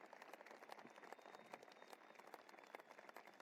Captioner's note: applause